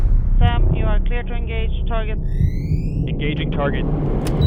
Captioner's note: dramatic music continues; radio Voice; buttons beep